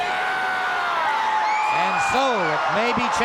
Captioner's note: Flair yells; crowd cheers